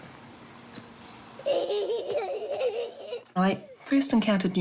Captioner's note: chuckles